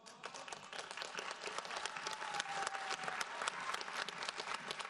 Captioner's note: audience applauds